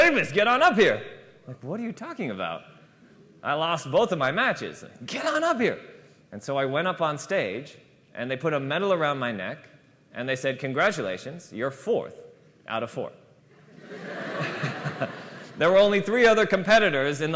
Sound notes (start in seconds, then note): 13.5 laughter